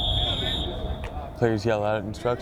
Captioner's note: whistle